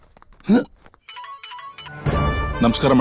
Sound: phone rings

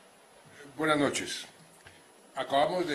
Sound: in Spanish, via interpretation

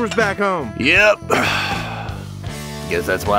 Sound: sighs

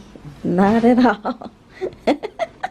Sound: laughs

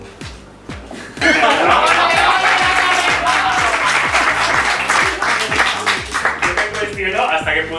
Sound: applause

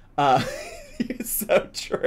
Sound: laughs

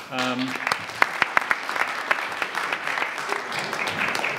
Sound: audience applauds

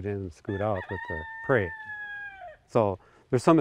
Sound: rooster crowing

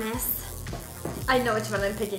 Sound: electricity buzzing

